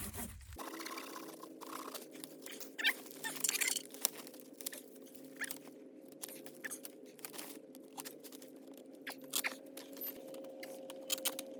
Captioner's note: sawing Noise; fast Sawing & Clipping Noises